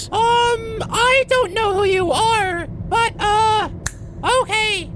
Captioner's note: snaps fingers